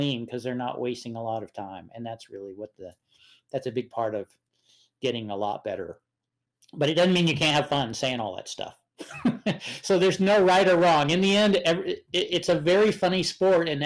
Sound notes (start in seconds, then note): 9.0 chuckles